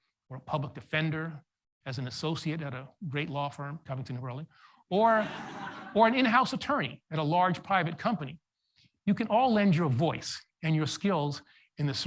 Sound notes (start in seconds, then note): 5.1 audience laughs